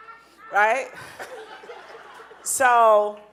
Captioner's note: audience laughing